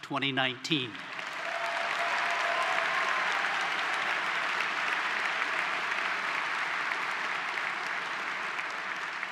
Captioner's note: applause